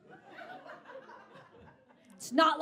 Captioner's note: audience continues laughing